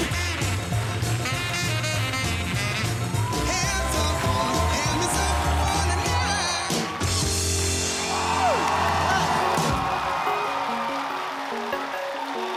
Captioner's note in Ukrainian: оплески